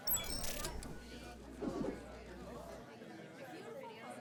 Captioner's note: computer blips